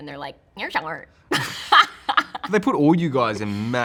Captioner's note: laughs